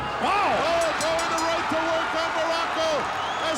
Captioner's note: bell ringing